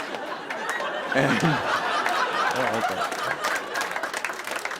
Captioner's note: laughter